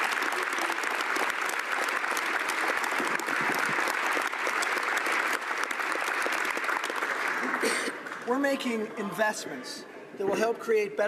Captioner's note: applause